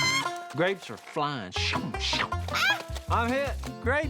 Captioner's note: whooshing sounds